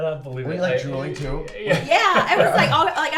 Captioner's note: laughs